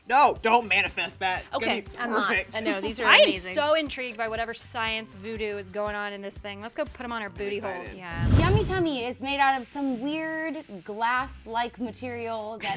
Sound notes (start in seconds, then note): 2.8 laughs; 8.0 air whooshing